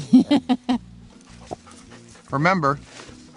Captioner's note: camera Operator laughs